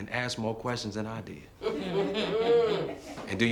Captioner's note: crowd laughing